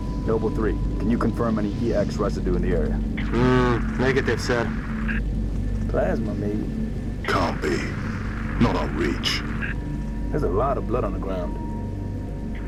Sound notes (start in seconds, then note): 3.5 radio